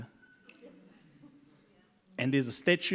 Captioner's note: audience laughs